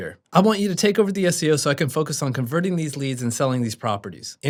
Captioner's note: none